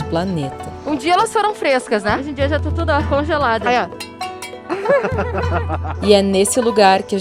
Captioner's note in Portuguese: risadas